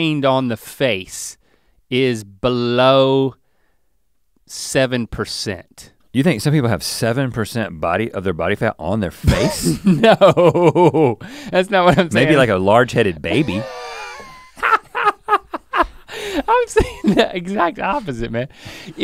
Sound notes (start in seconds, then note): 9.3 laughs; 13.3 Link laughs